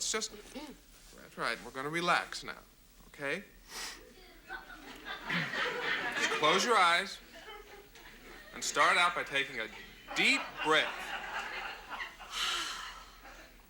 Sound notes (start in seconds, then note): 8.1 audience laughs; 12.3 exhales heavily